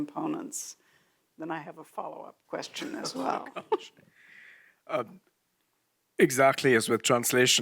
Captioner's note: chuckles